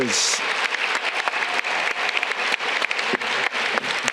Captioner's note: audience clapping